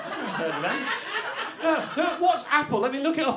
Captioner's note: audience laughter